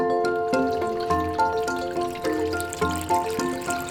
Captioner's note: water splashing